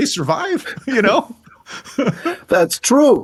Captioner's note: laughing